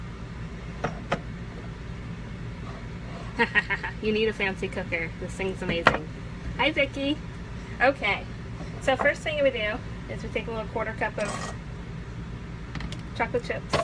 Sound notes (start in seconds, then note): 3.4 laughing